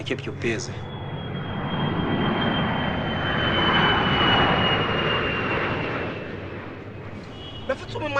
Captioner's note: aeroplane Flies Over